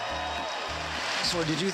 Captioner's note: audience cheers